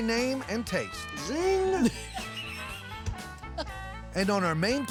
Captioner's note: laughter